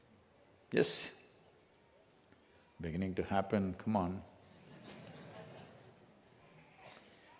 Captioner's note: laughter